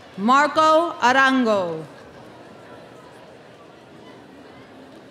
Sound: none

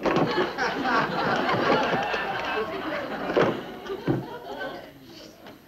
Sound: audience laughing hysterically

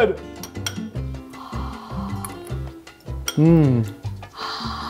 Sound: breathing

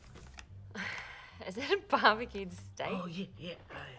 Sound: laughs

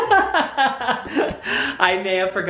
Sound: laughter

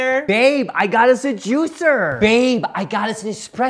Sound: none

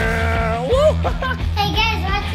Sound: man makes growling sound

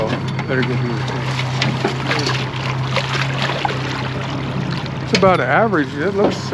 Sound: fish splashing

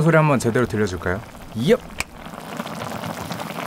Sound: snap

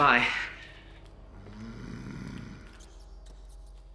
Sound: chef grunts; mouse squeaks

